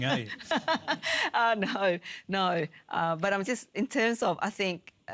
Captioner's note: laughs